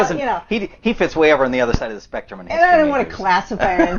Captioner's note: laughs; laughs